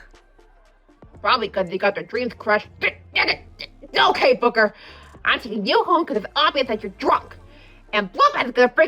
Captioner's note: stammers